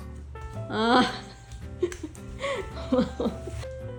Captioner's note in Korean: 셀프 박수